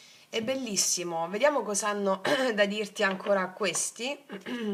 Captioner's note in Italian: schiarire la voce